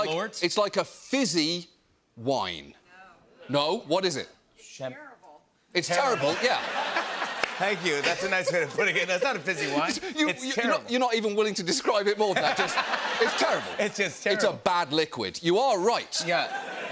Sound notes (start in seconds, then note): 6.0 laughter; 12.2 laughter; 16.3 laughter